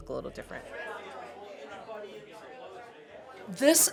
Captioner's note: people chattering